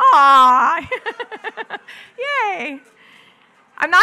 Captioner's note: laughs